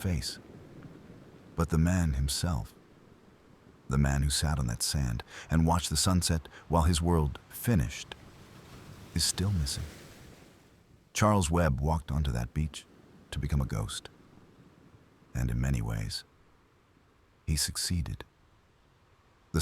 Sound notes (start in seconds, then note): 0.4 wind Blowing; 9.9 wind Blowing; 14.3 wind Blowing; 16.3 wind Blowing; 18.3 wind Blowing